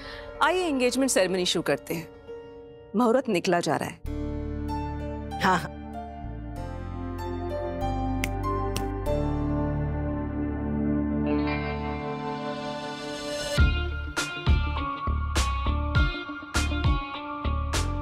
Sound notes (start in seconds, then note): 8.2 snaps fingers; 13.5 pensive music playing